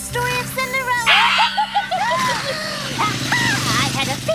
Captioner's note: witch cackling